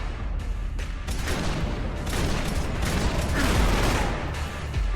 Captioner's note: gun shots firing